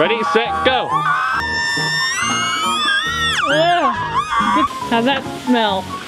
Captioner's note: high squeal